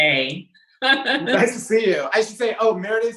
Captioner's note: laughs